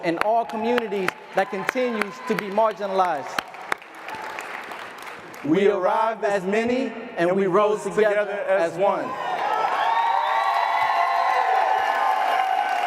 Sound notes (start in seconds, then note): 4.0 audience applauding; 9.0 crowd cheering